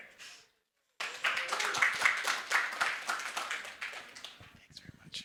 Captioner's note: audience applauding; audience cheers